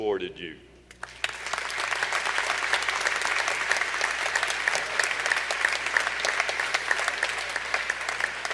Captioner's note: applause